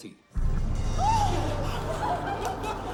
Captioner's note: excited murmuring; gasps